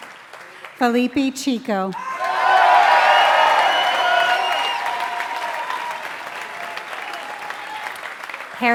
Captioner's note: applause